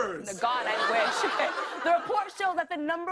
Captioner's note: laughter